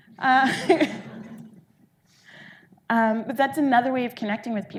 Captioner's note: audience laughing